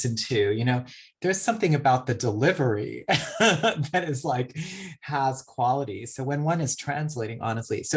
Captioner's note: laughs